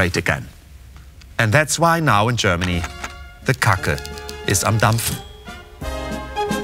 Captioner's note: speaking german